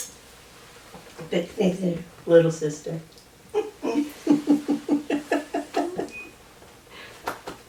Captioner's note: laughter